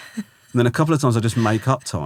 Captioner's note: laughing